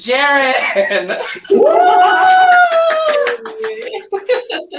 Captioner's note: group laughs; laughs